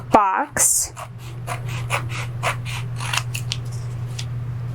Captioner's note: scissors crunching